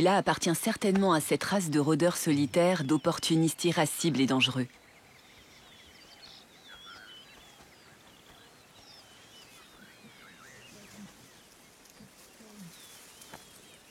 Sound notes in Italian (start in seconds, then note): 8.3 cinguettii